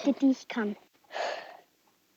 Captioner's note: sigh